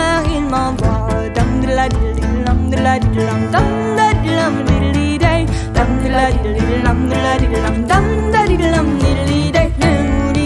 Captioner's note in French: Musique de bouche